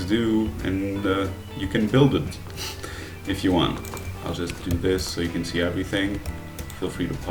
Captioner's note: chuckle